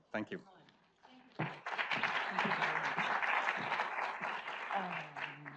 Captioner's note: audience applauds